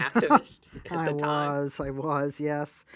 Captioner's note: laughs